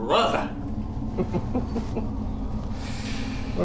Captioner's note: evil giggle